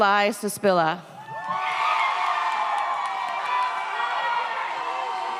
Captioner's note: audience cheers